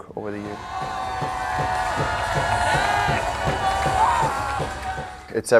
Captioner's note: crowd and team cheering